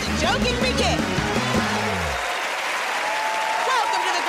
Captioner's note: cheers and applause